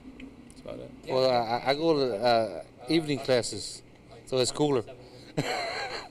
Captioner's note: laughs